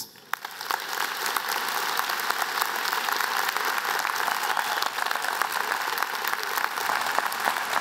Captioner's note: applause